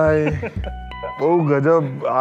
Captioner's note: laughs